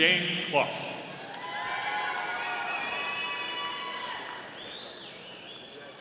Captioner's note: audience applauding